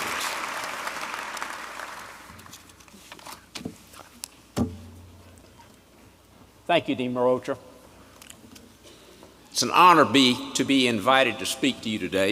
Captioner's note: applause